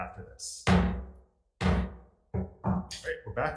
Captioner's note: gavel bangs